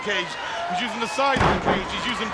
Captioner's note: body slamming